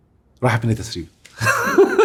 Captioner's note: laughs!